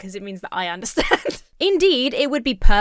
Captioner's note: laughs